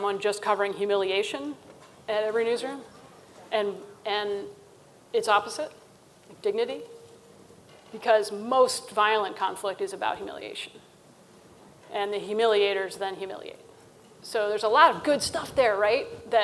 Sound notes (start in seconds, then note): none